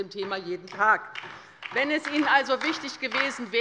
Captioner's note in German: Beifall bei der LINKEN